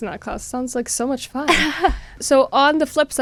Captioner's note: laughter